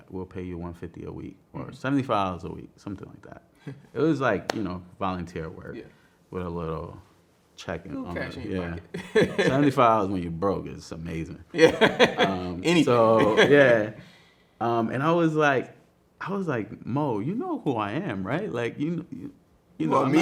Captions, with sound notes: "We'll pay you 150 a week or 75 a week," something like that. It was like volunteer work with a little checking on, 75 when you broke is amazing. (man laughing) And I was like, "Mo, you know who I am, you want me?"